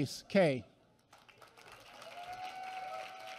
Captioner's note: applause